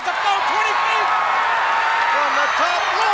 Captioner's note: crowd cheer